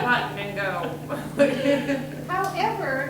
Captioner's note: everyone laughing